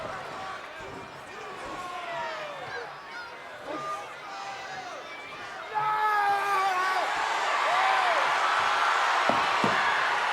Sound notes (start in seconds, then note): 5.9 Undertaker shouts; 6.4 audience cheering